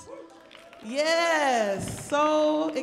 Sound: audience applauds

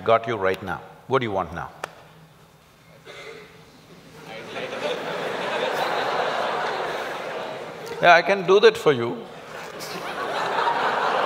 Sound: laugh; laughter, Cheers & Applauds

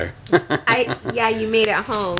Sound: chuckling

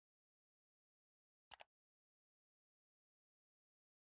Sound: mouse click

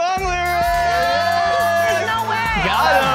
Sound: upbeat music; group yells

